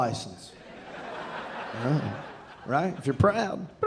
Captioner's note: audience laughing